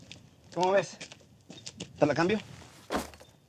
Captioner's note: speaking spanish